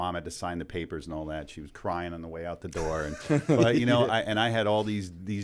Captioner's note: chuckle